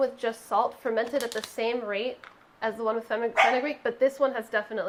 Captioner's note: dog barking